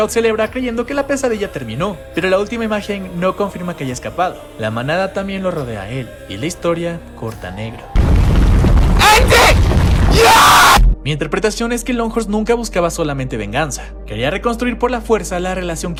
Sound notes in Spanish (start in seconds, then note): 7.9 grito